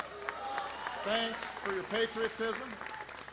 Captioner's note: applause